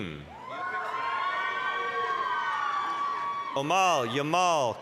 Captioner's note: applause, cheering